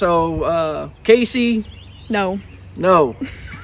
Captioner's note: laughs